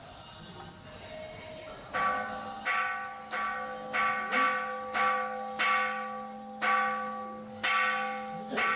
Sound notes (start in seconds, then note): 3.4 bell dongs